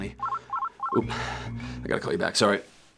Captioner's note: phone rings